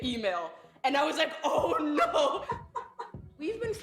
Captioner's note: laughs